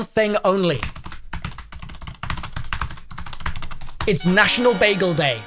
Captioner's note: types loudly